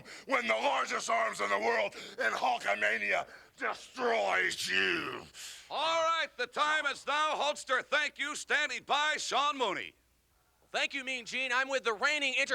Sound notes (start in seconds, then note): 4.9 grunts